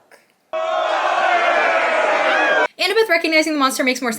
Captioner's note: angry Yelling